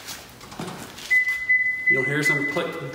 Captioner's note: car beeping